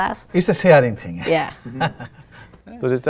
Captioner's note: laughs